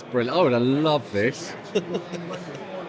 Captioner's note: laughing